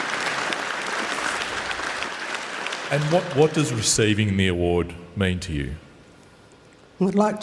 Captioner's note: applause